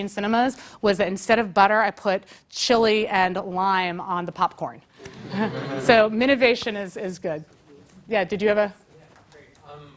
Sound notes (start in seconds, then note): 5.0 laugh